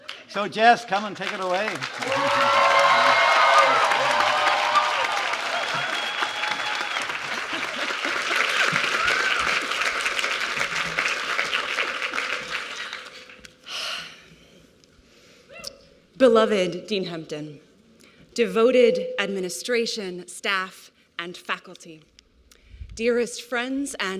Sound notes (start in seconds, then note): 1.9 applause and cheering